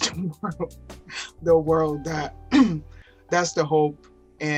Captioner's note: laughing